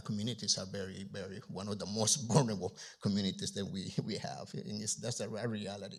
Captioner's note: chuckles